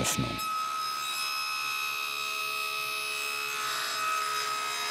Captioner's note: shrill sawing noise